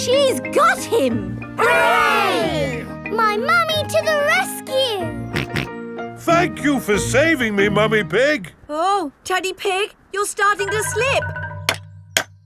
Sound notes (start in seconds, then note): 6.1 snorting